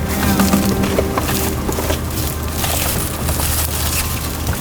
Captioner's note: leaves rustling